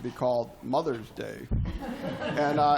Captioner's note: laughter